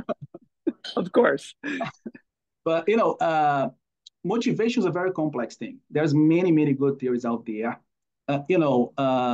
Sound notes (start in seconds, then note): 0.0 laugh